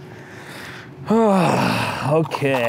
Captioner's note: sighs